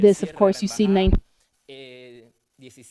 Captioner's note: speaking spanish